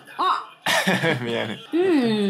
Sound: laughing

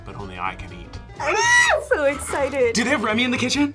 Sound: screams

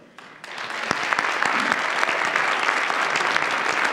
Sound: audience applauds

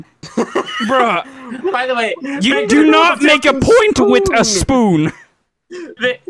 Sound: group laughter

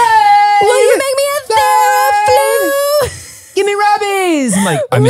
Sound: both yelling at the same time

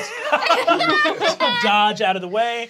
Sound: laughing

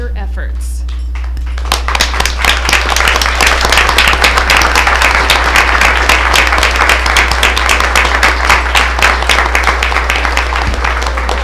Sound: applause

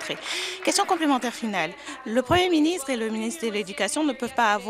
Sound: applause

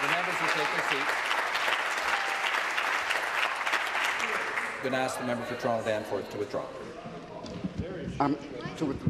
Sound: applause

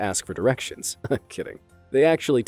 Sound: chuckles

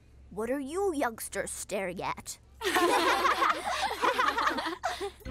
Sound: laughing together

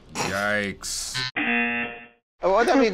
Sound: snorts; buzzer

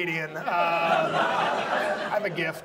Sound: audience laughs

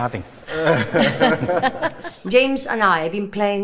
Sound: all laugh

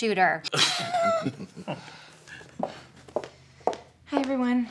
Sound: laughter

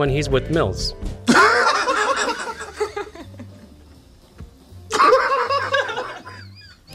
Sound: laughs

